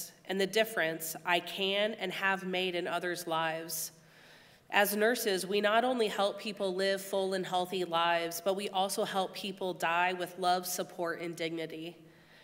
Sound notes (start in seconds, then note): none